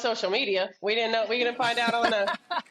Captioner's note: panelists laughing